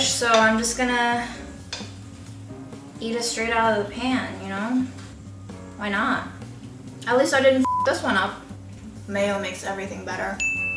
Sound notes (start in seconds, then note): 7.6 beeping